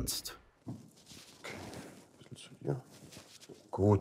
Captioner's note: quietly